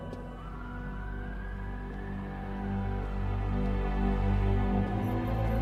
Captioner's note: siren wailing in distance